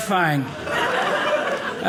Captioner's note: audience laughing